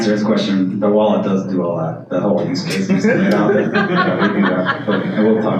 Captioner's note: laughter